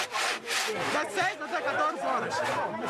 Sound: Portuguese spoken audio

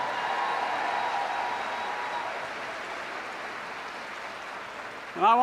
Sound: applause

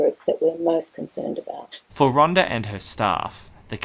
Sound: voiceover

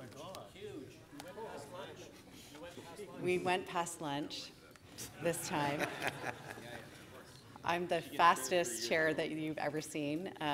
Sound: laughter

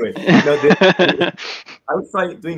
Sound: laughs

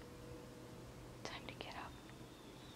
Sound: whispers

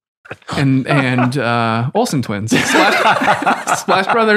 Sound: both laugh

